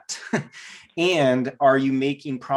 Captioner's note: giggles